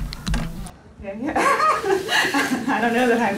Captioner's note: laughs